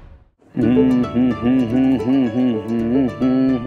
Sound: humming

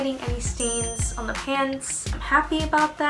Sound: check dings

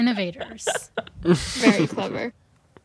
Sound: laughter

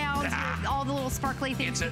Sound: laughter

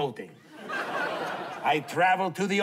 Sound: laughter

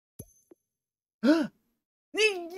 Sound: gasp

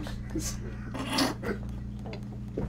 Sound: crew starts laughing; snort laugh

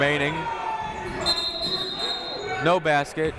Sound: whistle blowing

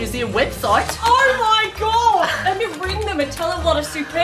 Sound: Australian accent

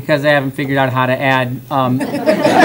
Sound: laughter

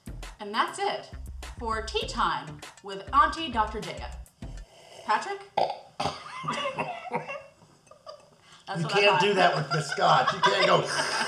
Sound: chortles

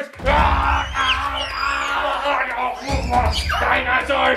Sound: screaming

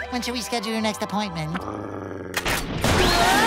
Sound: growling; screaming

